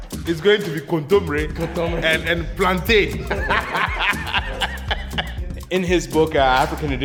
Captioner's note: laughs